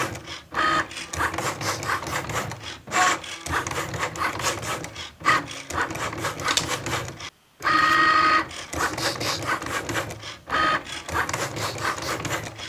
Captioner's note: Cricut whirring and cutting